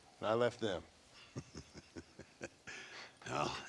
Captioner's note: laughs